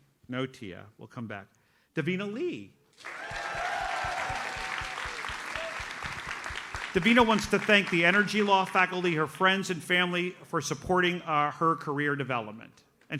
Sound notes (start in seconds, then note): 3.0 audience cheers and applauds